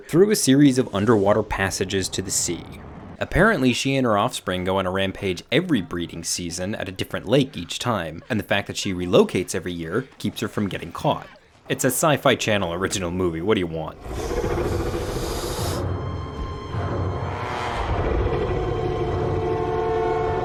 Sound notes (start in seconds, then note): 13.9 Nessie growling; 17.5 dramatic music